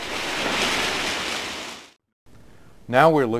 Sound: sounds of fire

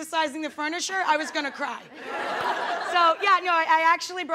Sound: audience laughing

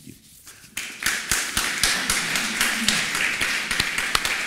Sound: claps

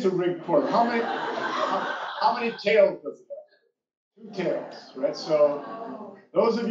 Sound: laugh

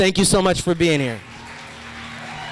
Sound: applause

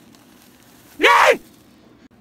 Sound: Call of Duty Zombie sound

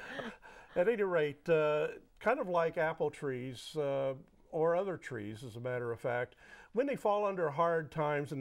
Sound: laughing

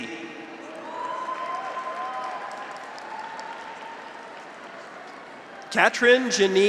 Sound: graduates cheer; audience applauds

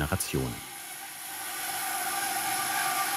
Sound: sound of sawing

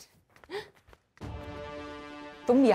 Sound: gasps

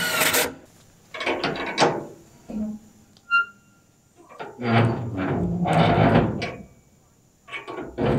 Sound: turnbuckle creaks

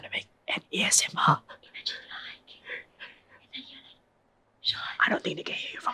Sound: even softer whisper

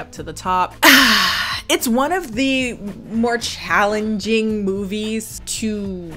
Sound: sighs

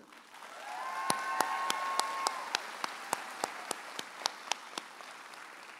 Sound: audience applauds

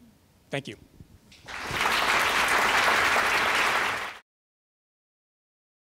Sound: applause

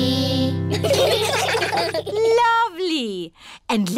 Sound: children giggling

